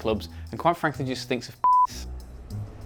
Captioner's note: beep